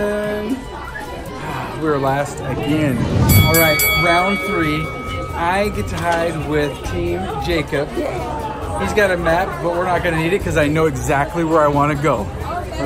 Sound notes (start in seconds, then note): 2.9 bell dinging